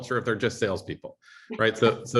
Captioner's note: laughter